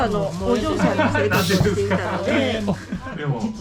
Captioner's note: laughs